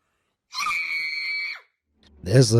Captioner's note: child screams